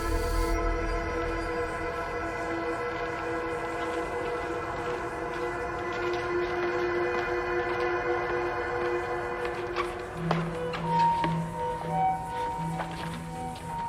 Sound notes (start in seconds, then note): 4.9 footsteps shuffling; 11.1 eerie music